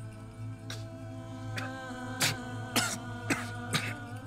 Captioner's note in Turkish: Öksürüyor